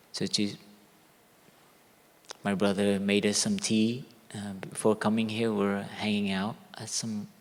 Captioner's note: none